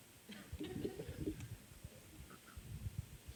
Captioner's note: laughs